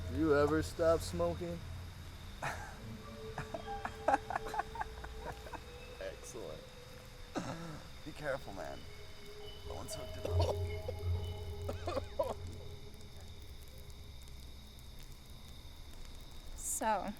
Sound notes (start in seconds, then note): 2.4 laughing; 11.7 Michael coughing